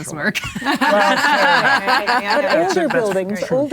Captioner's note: both laughing